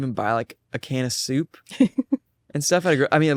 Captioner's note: laughs